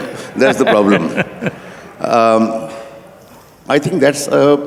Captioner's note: laughter